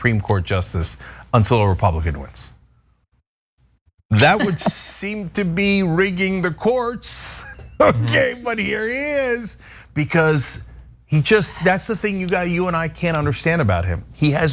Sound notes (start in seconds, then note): 7.5 laugh